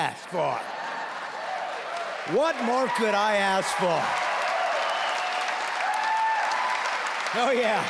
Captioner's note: laughing and cheering; clapping